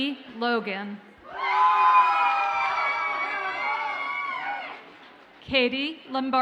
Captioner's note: audience cheers and applauds